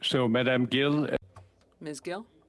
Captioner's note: speaking in French